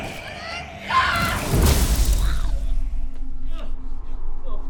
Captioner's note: zapping